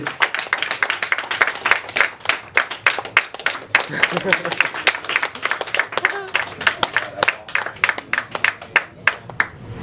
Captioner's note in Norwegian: applaus